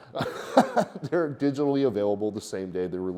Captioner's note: chuckles